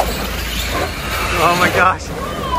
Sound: cars buzzing

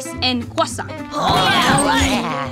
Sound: cheering

